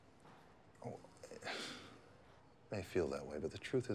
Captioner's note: sighs